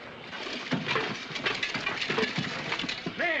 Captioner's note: clanking